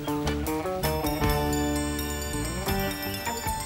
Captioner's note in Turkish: Telefon çalıyor